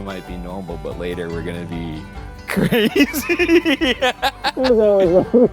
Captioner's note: laughing